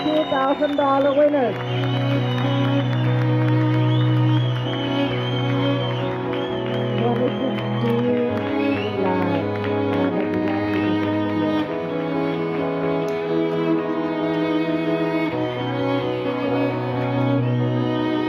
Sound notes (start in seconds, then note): 4.4 applause